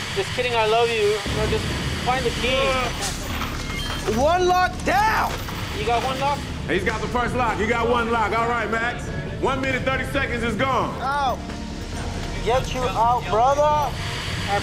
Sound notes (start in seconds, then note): 3.4 digital beeping; 4.9 dramatic music